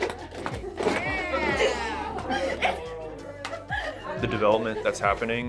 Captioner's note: group cheering and laughing